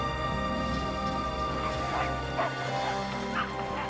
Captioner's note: barking